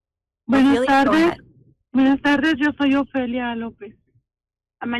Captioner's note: speaking in Spanish